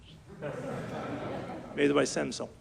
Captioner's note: audience laughs